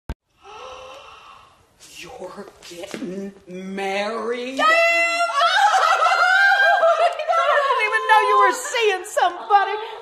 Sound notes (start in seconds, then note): 0.3 gasps; 5.0 both laughing and cheering